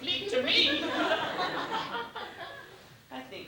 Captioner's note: laughter